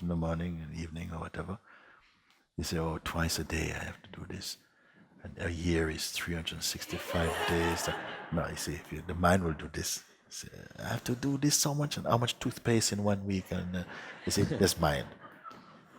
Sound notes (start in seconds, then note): 6.8 laughter; 13.8 laughter